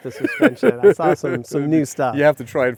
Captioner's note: laughing